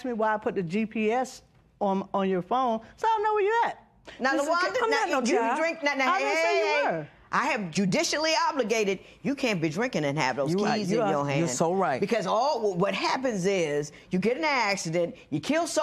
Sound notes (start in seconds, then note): none